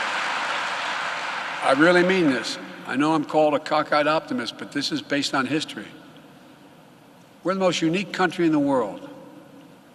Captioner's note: applause